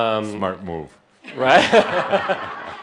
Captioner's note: laughter